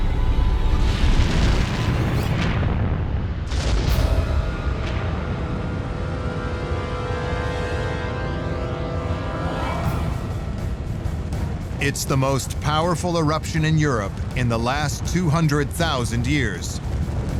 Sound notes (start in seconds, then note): 1.1 deep rumble; 8.9 suspenseful music